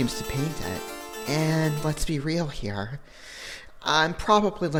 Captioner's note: inhale